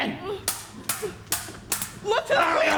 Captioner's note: swords clang